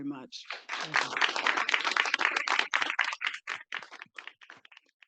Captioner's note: participants clapping